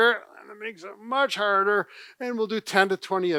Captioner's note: straining